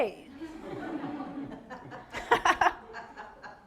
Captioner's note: laughter